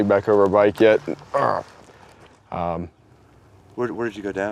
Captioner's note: grunts with pain